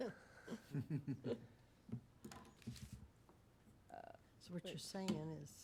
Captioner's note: laughing